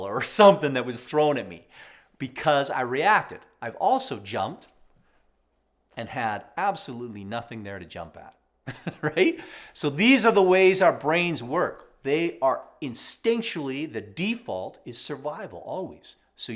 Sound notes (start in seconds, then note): 8.6 chuckles